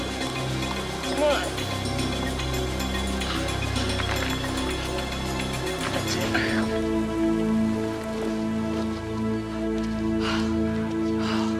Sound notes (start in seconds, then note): 9.3 continues panting